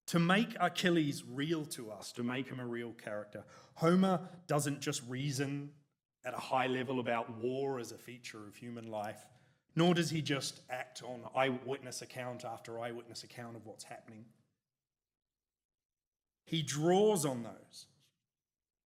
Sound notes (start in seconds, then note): none